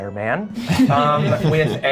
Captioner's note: laughing